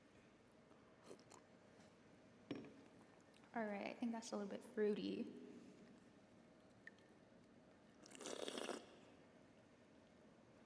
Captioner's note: slurping